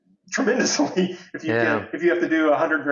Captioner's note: laughs